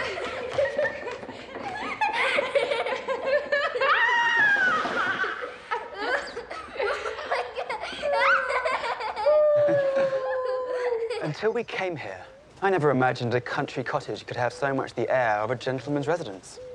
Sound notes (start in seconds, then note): 0.1 laughter continues; 2.6 playful shout; 6.5 laughter continues; 8.6 chuckles